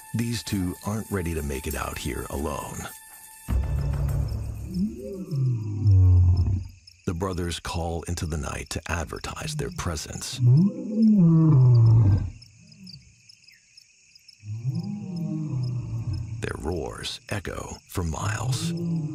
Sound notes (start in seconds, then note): 3.1 suspenseful music; 4.7 lion roaring; 10.4 lions roaring